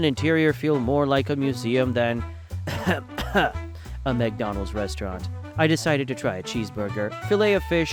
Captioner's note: coughs